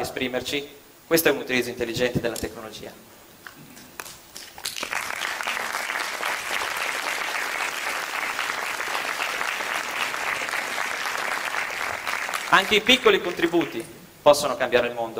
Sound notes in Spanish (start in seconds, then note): 4.3 Aplausos